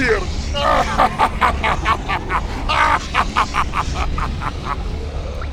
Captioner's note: Acoleyet laughs harder